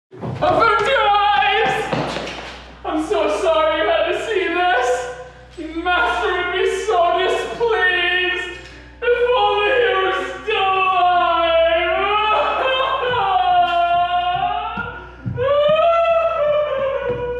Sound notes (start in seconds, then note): 11.7 loud sobbing that gradually fades